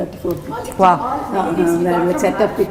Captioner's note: background Chatter